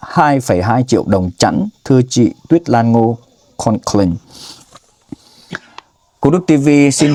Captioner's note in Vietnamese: khịt mũi